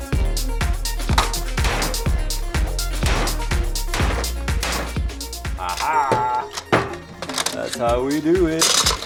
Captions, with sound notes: (hammer banging) Ah ha. That's how we do it.